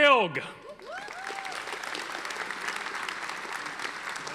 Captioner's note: audience applauding